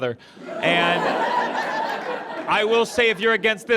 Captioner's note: audience laughs